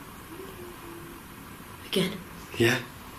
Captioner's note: faint responding